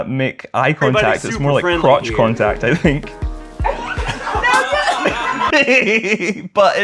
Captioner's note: laughter